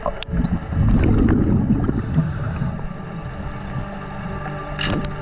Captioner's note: underwater sounds continue